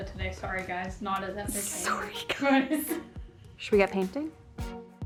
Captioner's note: laughs; chuckles